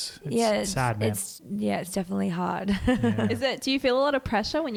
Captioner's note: chuckles